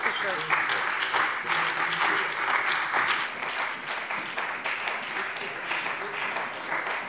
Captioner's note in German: Beifall bei der CDU und dem BÜNDNIS 90/DIE GRÜNEN